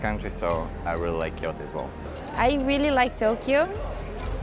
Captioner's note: none